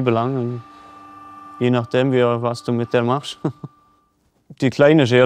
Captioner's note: laughter